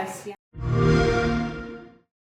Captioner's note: Xbox startup sound